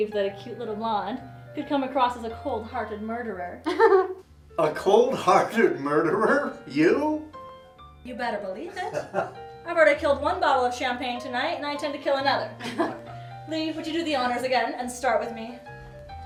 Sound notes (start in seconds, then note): 3.6 woman chuckling; 8.8 man in black suit laughing; 12.6 group chuckling